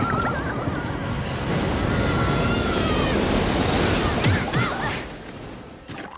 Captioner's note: kids screaming; water rushing